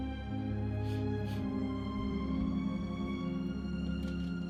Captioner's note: sniffs